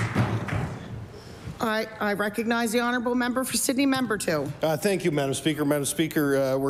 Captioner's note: applause